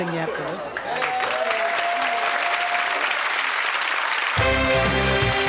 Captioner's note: audience applauding; upbeat music